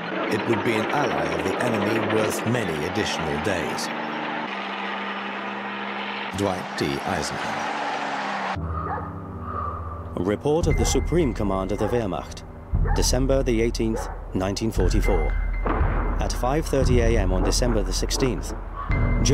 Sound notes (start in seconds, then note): 8.6 dramatic music; 8.7 dog barking